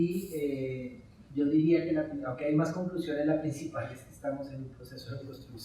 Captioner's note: speaking in Spanish